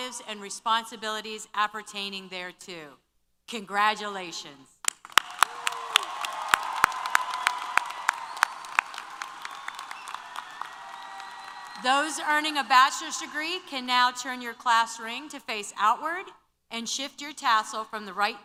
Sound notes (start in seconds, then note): 4.9 applause & Cheers